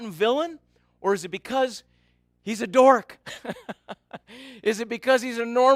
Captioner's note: laughs